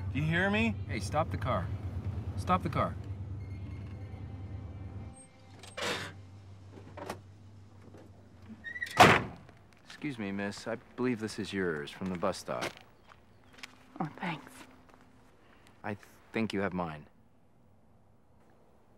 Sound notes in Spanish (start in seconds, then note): 6.7 se abre la puerta del auto; 8.7 la puerta del auto se cierra